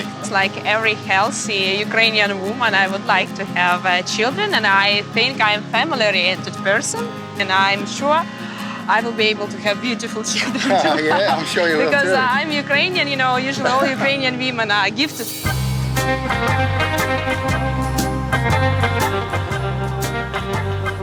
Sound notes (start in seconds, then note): 10.3 laughs; 15.5 laid-back guitar music